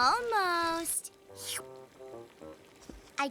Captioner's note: slurps